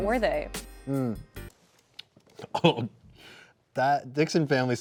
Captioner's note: lips smacking